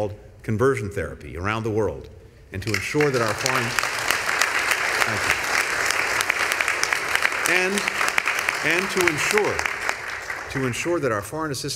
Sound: applause

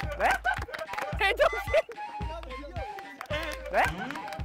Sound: burst out in laughter

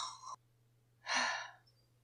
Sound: loud snoring; sighs

